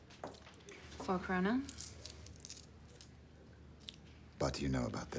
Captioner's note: coins clinks